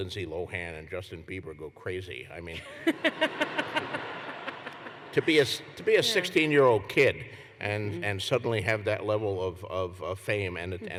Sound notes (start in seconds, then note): 2.5 laughter